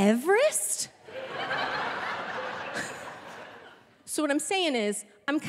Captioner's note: audience laughing